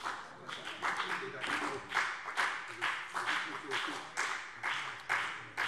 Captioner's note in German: Beifall BÜNDNIS 90/DIE GRÜNEN und CDU